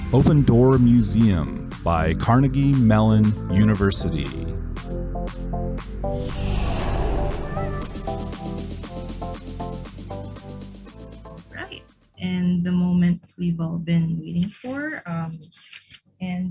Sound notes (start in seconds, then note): 5.1 upbeat music; 6.0 air whooshing